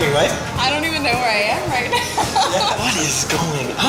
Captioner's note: laughs